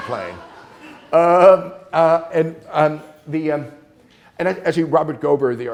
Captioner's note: students laughing